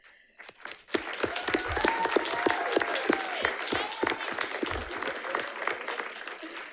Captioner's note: audience cheering and applauding